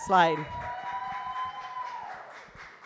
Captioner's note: cheers and applause